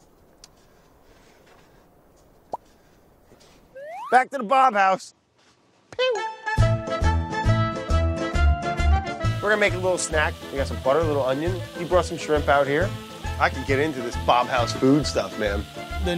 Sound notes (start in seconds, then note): 3.7 bubble popping; 6.2 upbeat Italian music